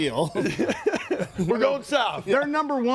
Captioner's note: group laughs